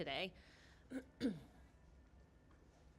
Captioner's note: clears throat